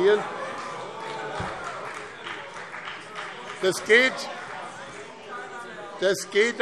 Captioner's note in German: Vereinzelter Beifall BÜNDNIS 90/DIE GRÜNEN und CDU - Zurufe